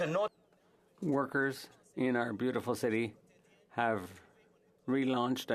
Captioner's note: speaking alternate language